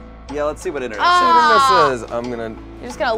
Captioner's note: groans